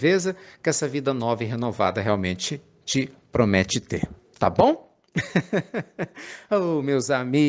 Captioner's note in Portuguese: risadas